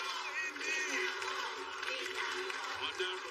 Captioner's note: chanting